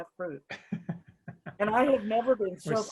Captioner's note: laughs